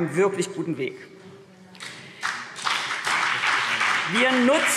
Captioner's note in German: Beifall CDU und BÜNDNIS 90/DIE GRÜNEN